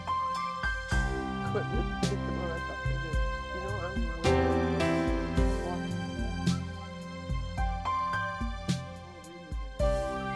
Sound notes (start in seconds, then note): 1.4 chatting